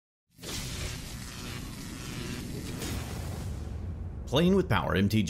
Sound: electricity Buzzing

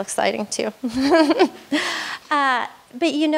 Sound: laughs

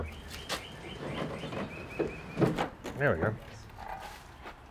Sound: car door rattles open

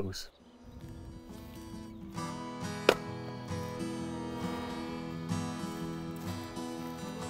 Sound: soothing music; axe thumping

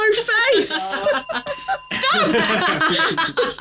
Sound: females laughing; group laughing; bell dinging

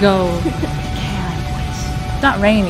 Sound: whispers

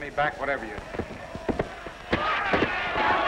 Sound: shouting

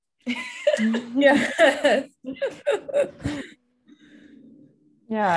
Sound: all laughing

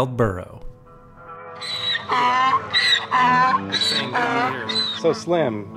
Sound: burro braying

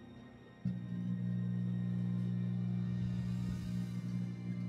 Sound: plasma humming

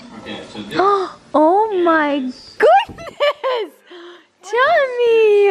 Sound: gasps; laughs

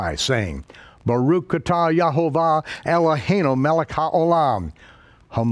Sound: speaks in a foreign language

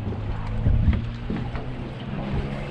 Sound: fish splashing

